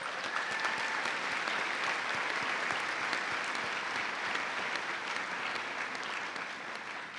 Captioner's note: cheers and applause